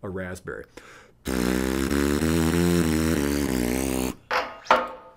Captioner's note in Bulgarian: жужене с устни